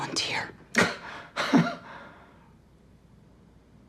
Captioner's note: Chuck laughs